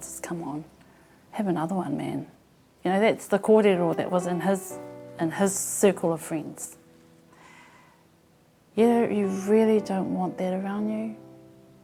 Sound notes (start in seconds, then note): 2.8 conversation